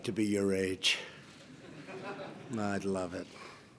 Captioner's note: laughter